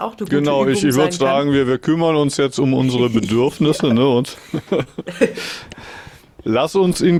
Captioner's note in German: gelächter